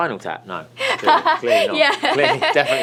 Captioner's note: laughs